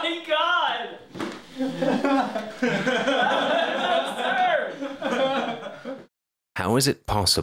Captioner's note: laughter